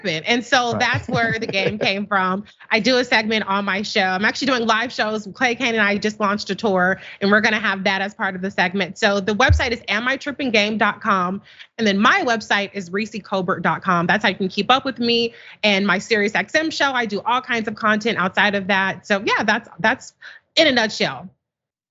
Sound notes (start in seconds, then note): 0.6 laugh